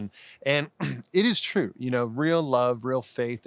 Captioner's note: clears throat